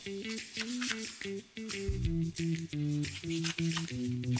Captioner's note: knife slicing